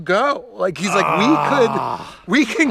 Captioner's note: groans